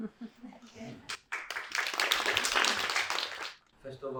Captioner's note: crowd claps